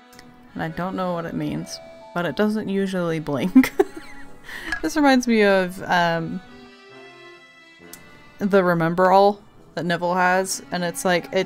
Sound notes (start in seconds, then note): 3.5 laughs